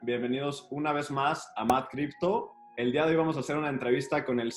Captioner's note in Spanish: Hablando en español